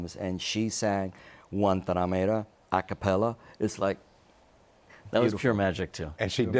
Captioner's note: speaks Spanish